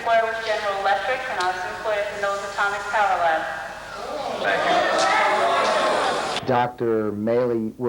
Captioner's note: crowd murmurs